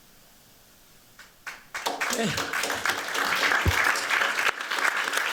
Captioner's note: applause